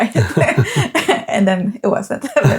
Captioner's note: both laughing